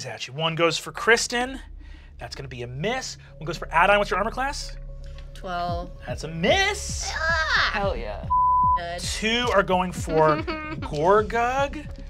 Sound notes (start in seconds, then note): 7.0 cheers; 8.3 beep